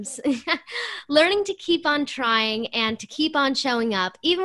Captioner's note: laughter